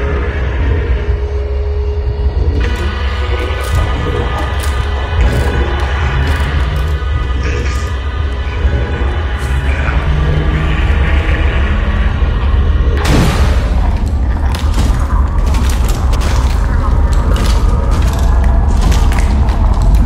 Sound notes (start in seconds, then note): 2.9 guttural moaning; 6.7 sounds robotic and desperate; 13.0 bam; 14.3 moaning in pain; 14.3 pounding; 17.4 moaning in pain; 17.4 twisting with bones snapping